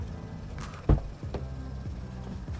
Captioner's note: door opens